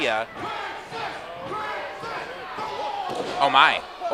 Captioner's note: crowd chanting Crixus